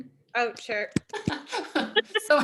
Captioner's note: laughter